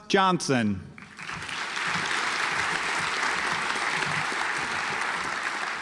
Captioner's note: audience applauds